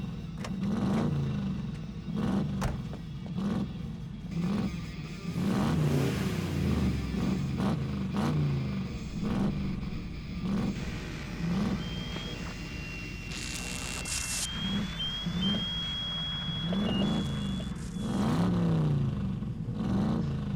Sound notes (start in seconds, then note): 7.2 loud engine acceleration; 14.2 whistle; 16.1 alarm; 17.6 loud engine acceleration